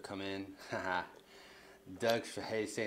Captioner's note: chuckles